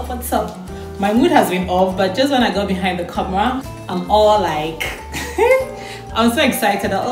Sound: laughter

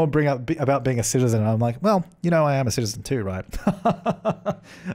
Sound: lauging

